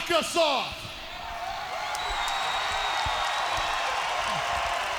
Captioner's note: crowd cheers